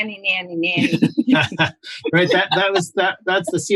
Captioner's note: laughter